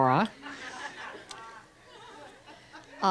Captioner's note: crowd laughs